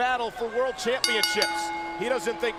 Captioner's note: bell rings